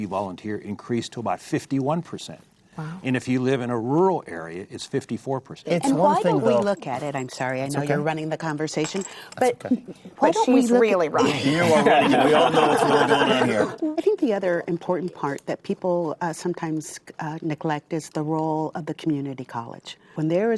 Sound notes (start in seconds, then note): 11.2 laughs